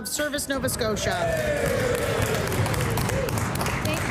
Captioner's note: some Applause